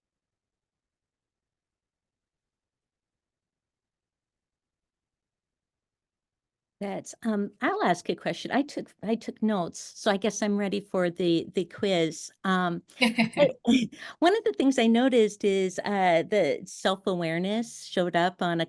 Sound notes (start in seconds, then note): 13.0 laughs